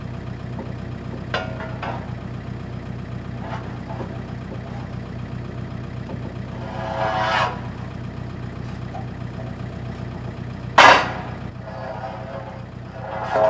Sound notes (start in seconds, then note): 7.1 metal scrapes; 10.8 metal bangs